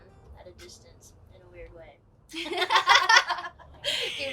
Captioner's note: laughs